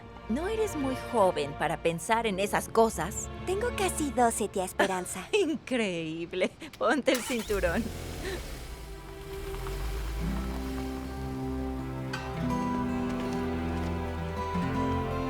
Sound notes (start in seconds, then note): 5.4 Riéndose